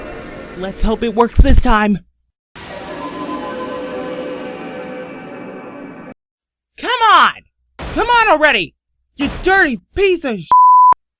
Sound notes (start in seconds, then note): none